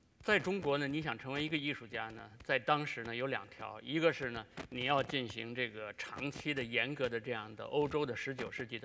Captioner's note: speaking in Chinese